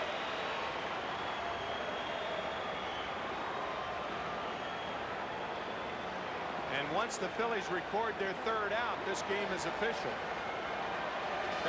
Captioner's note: applause